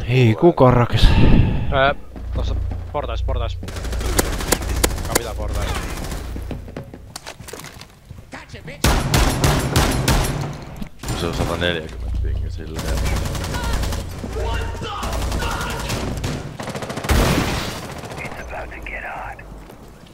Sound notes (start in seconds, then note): 1.0 sigh; 2.1 hit sounds